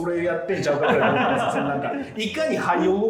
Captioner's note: laughing